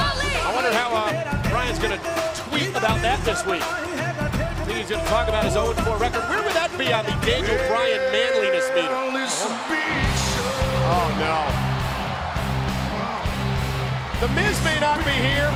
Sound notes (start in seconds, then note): 2.4 bell ringing; 3.8 crowd cheering; 15.3 crowd cheering